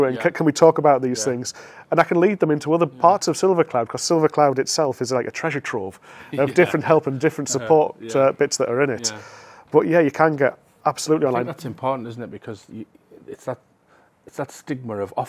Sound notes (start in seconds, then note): 6.4 chuckles